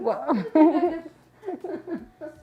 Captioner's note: laughs